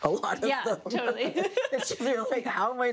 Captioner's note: laughs